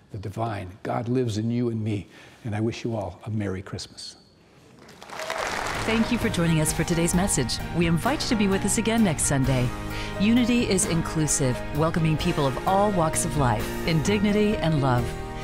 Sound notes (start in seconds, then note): 4.7 audience clapping